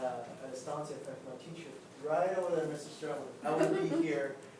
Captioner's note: speaks faintly